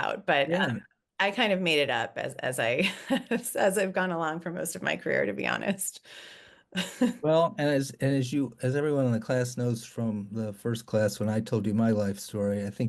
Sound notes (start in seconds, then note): 0.5 laughing; 6.8 laughing